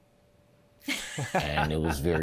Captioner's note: panelists laughing